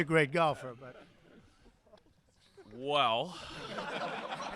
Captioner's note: laughter